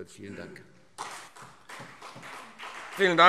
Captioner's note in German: Beifall CDU und BÜNDNIS 90/DIE GRÜNEN